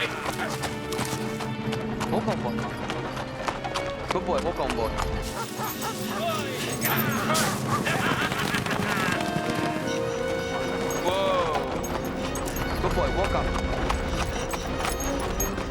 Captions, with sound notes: - Walk on, boy. Good boy, walk on, boy. (men shouting) (dogs barking) (dramatic music) Whoa! Good boy, walk on.